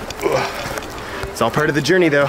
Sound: grunts

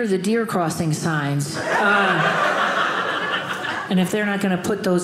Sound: audience laughing

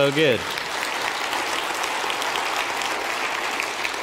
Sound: audience applauding

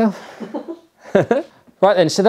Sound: all chuckling

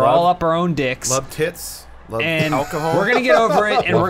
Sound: laughs

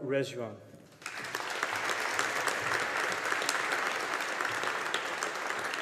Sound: audience applauding

